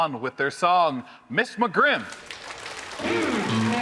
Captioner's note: audience applauding; audience cheering